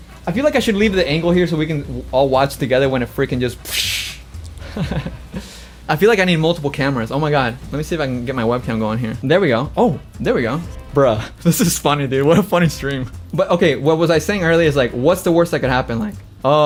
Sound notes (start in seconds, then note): 4.5 laughs; 12.2 laughs